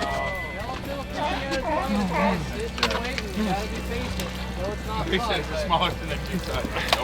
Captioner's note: crew chatting excitedly